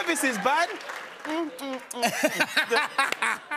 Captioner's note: laughter